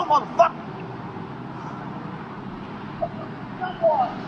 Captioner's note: city noises